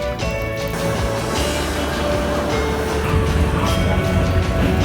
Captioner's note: train chugging